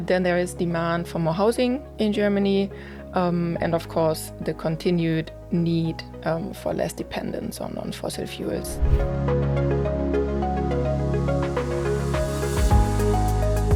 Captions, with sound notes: Then there is demand for more housing in Germany, and, of course, the continued need for less dependence on fossil fuels. (scene whooshing) (bright music)